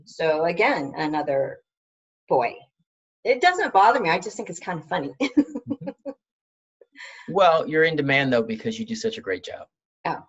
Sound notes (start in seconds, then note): 5.3 laughs